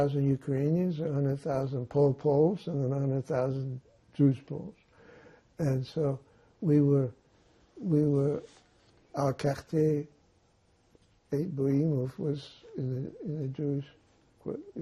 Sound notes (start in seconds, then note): 9.0 non-english